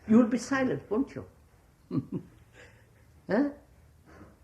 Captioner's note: laughs